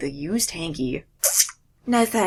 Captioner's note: moist noise